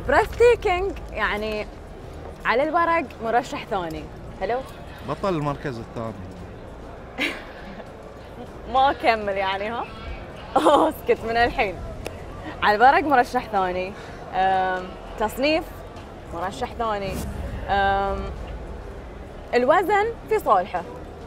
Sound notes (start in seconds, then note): 6.9 laughing